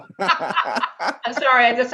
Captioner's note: laughter